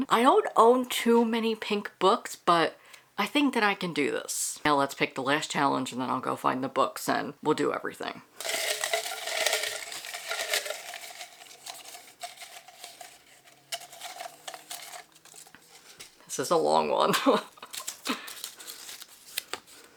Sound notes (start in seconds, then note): 8.4 paper crinkling/shuffling; 18.8 laughs